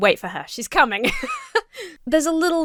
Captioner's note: laughs